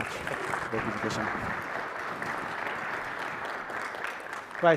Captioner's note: applause